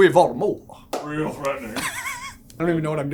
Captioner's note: laughing